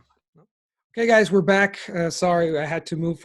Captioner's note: in English